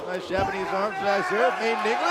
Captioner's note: crowd chatter